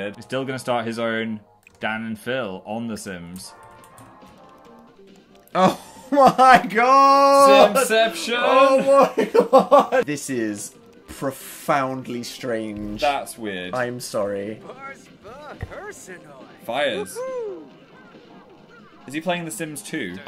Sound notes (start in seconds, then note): 14.5 Dil speaking Simlish